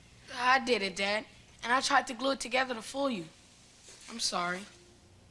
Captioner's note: none